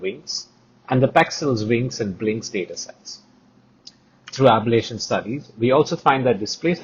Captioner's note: click